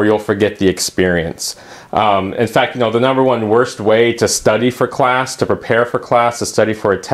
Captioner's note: uumm